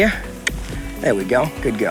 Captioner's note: mouth clicking